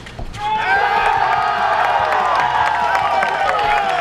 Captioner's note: cheers